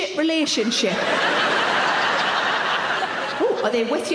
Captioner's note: audience laughing